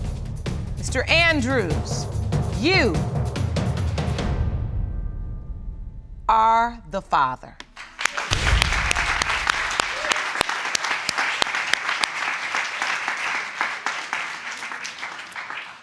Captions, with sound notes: "Mr. Andrews, you... "...are the father." (ALL CLAPPING)